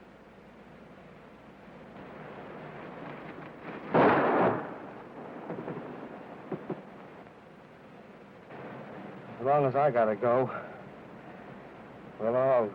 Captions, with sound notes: (gun firing) As long as I gotta go, we'll all go.